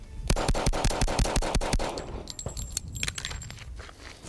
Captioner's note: gun shooting